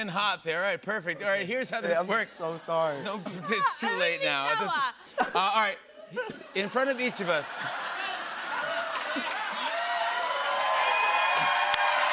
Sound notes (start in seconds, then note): 6.4 laughter; 7.7 cheers and applause